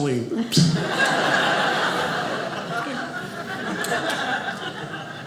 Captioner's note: audience laughing